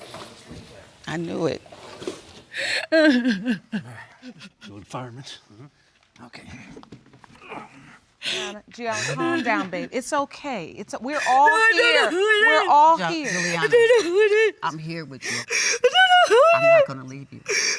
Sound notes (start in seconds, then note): 3.7 crying